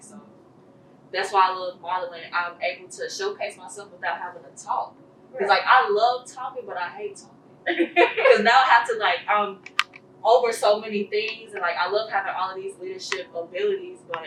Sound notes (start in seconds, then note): 7.7 laughs